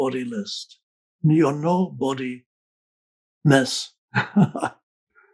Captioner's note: laughs